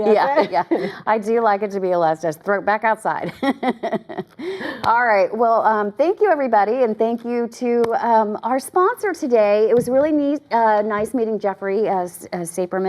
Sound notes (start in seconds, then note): 3.3 laugh